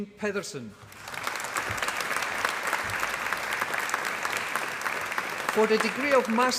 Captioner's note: applause